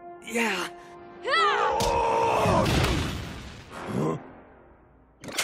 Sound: Atlanta grunting; creature screaming

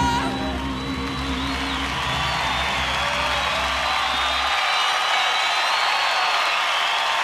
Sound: audience cheering

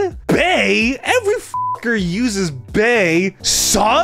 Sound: beep

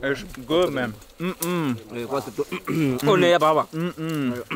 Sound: speaking foreign language

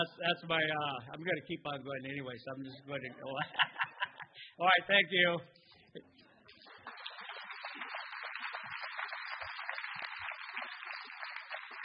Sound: applause

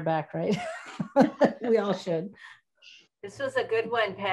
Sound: laughs

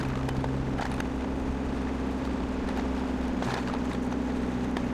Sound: engine roaring

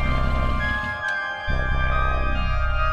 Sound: engine stops

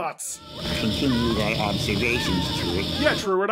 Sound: the beggar screams to death

